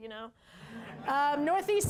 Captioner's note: laughter